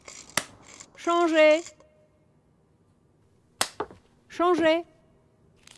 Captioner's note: woman speaking French